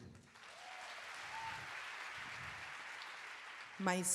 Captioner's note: audience applauding